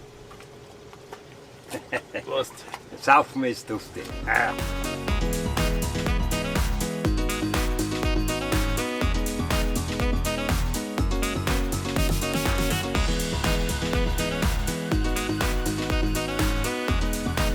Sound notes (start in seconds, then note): 1.7 laughing